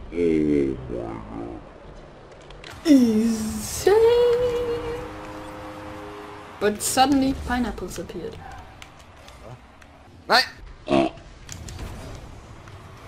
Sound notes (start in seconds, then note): 10.8 pig sound